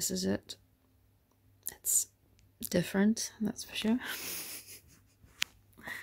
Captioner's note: laughs